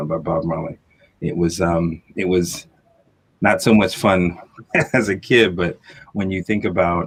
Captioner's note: chuckle